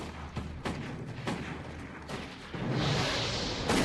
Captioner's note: gunshots